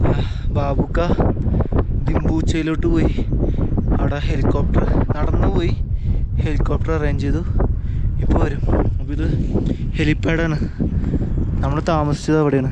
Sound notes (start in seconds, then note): none